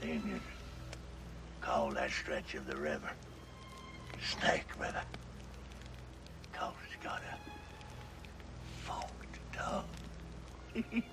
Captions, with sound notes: - The Indians call that stretch of the river Snake River 'cause it's got a forked tongue. (laughs)